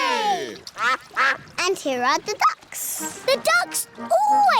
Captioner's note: quacking